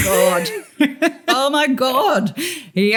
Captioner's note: laughter